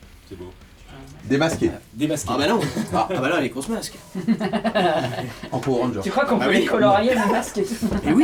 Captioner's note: laughs